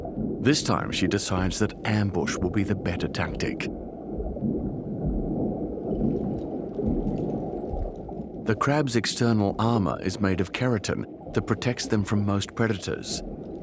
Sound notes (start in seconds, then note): none